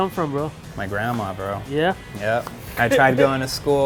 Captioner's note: laughs